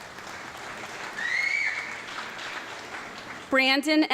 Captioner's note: audience clapping and whistling